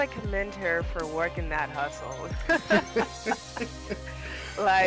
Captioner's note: laughs